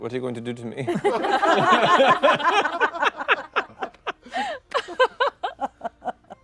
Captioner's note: laughter